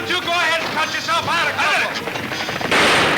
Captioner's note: gun firing